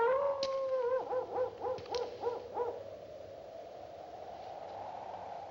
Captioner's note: dog Howls In Distance